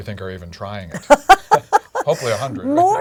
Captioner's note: laugh